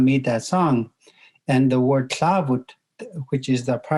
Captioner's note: speaking in Native language